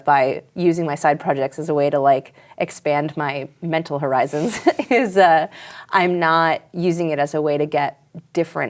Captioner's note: laughs